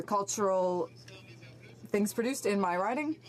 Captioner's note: speaking French